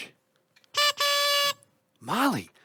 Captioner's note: school bus horn